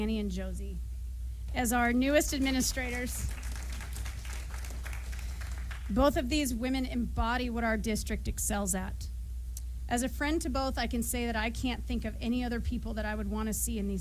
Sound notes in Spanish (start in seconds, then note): 2.3 aplausos